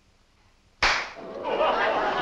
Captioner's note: clap; laughter